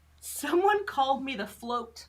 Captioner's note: none